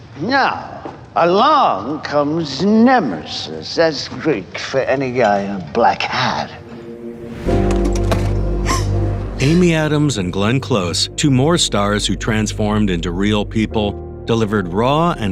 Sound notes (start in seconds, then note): 7.7 car door slams; 8.5 Amy inhales distraughtly